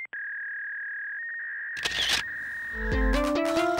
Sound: fax machine sounds

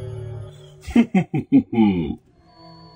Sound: creepy music; evil laugh

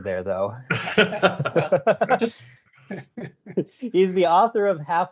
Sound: laughter

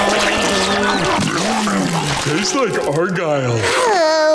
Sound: Patrick loudly chewing

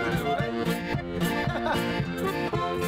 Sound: laughing; accordion and guitar music

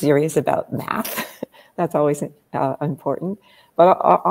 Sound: laughs

